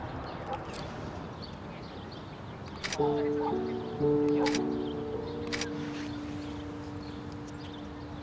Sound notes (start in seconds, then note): 2.8 shutter clicking